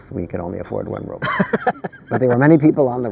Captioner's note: laughter